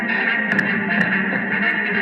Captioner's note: thud